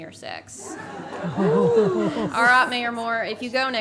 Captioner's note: everyone laughs